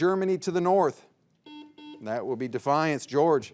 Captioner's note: buzzer beeps